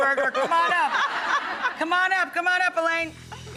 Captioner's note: laughs